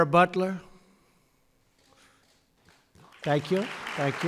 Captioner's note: applause